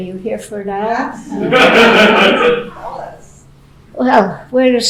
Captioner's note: laughing